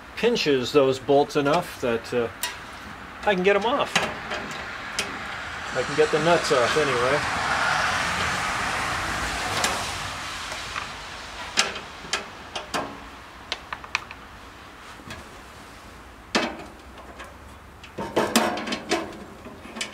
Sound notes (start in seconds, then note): 7.3 car passing; 7.3 metallic banging